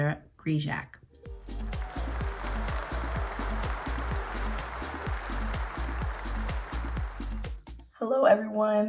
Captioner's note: cheers, applause